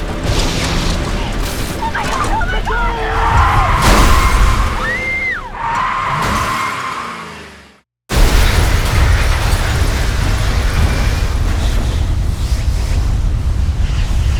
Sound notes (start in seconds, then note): 1.9 screams; 3.1 tires screeching